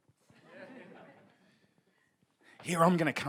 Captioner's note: audience laughs